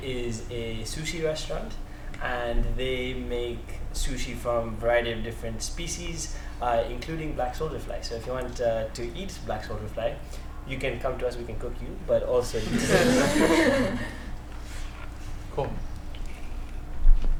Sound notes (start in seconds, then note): 12.6 laughter